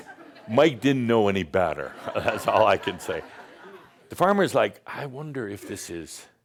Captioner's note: some chuckles; more laughter